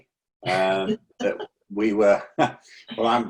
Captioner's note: chuckles